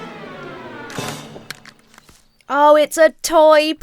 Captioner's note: plane clatters